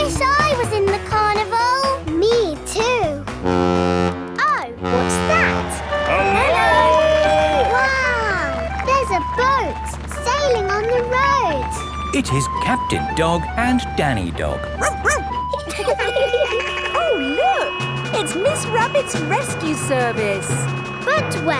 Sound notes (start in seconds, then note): 4.8 horn bellowing; 14.5 laughing; 14.6 sirens sounding; 14.7 barks